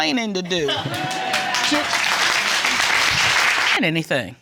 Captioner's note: audience applauding and cheering